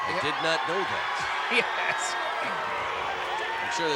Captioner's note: laugh